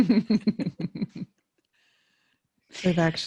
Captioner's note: laughing